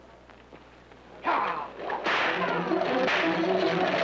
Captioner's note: suspenseful music; whip cracking